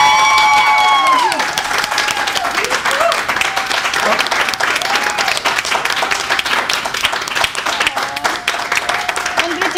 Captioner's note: applause